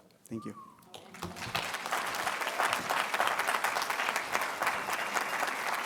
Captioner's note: audience applauding